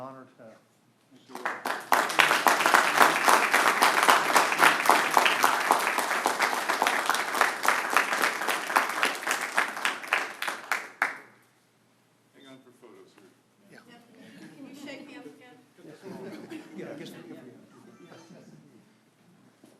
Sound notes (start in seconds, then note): 10.1 applause